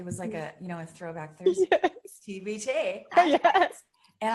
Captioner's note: giggles